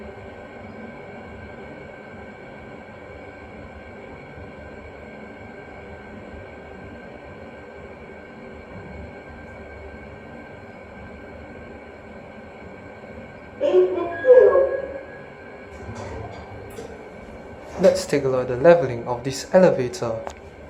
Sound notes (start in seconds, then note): 13.6 ding